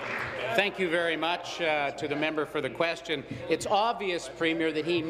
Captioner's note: applause